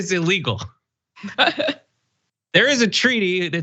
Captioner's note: laugh